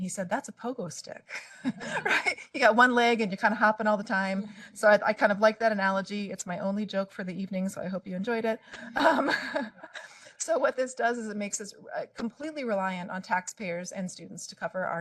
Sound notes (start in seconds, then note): 1.5 laughing; 8.7 laughing